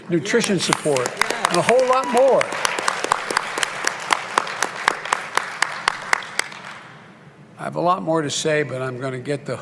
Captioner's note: applause